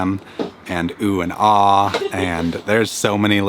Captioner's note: laughs